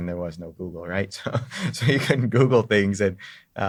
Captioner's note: laughs